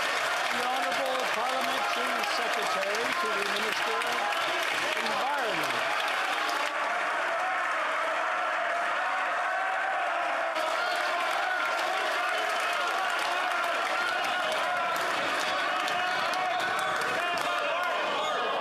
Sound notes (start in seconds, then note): 15.0 yelling; 15.4 cheering